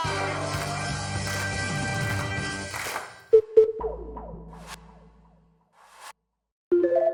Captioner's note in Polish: Aplauz